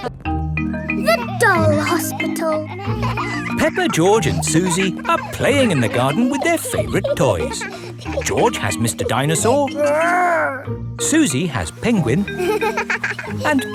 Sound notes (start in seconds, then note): 2.9 kids laughing; 11.9 giggles